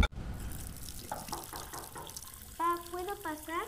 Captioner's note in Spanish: tocan puerta